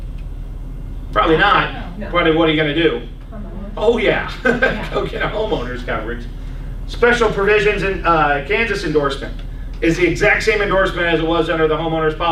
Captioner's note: laughs